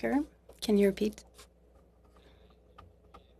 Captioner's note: speaking French